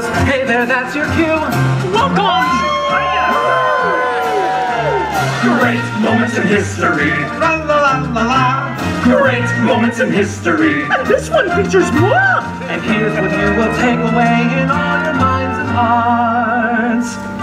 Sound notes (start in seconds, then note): 1.2 patriotic themed music; 1.9 audience cheers; 4.1 patriotic themed music; 6.4 patriotic themed music; 8.1 patriotic themed music; 10.2 patriotic themed music; 12.0 patriotic themed music; 13.8 patriotic themed music; 16.3 patriotic themed music